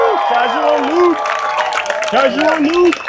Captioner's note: applause